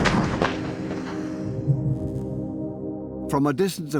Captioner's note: sound of gunfire